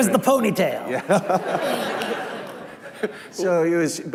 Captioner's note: laughing